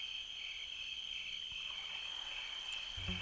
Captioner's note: insects chirping; light music